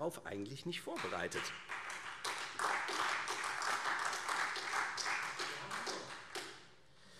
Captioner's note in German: Beifall Freie Demokraten, SPD und vereinzelt AfD